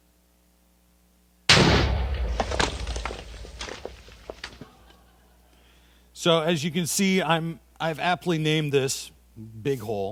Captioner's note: explosion